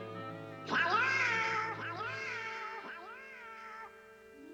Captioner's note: echoing